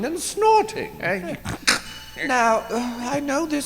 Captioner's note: snort